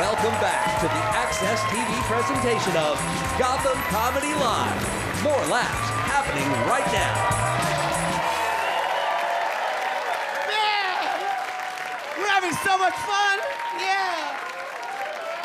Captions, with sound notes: Welcome back to the AXS TV presentation of Gotham Comedy Live, more laughs happening right now. (audience cheer and applaud) - Yeah! We're having so much fun! Yeah.